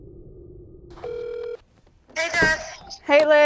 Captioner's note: phone ringing